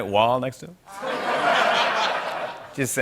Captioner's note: laughter